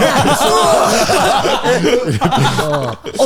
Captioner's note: all laughing